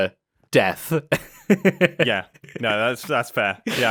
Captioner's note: laughs